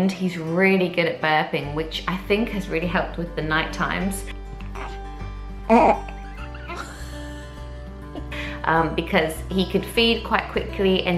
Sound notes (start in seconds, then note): 4.5 gentle music; 4.6 burps; 5.7 laughs